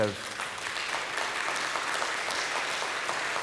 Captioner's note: applause